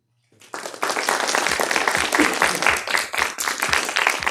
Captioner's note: applause